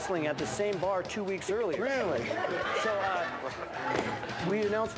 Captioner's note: laughter